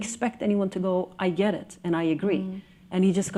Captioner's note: exhales